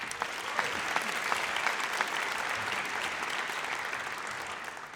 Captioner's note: audience applauds